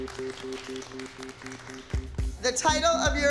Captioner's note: applause